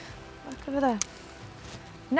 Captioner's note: mutters